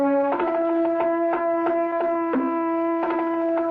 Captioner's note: horn blows